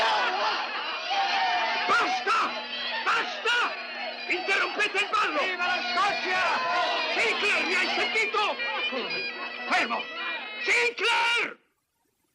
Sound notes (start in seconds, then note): 5.5 yelling